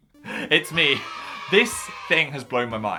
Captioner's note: kids cheering